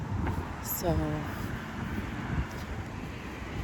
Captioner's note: vehicles sound in the distance